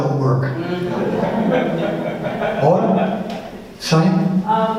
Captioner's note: audience laughs